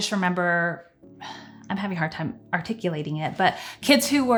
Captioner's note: sighs